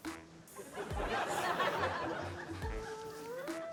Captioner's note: laughter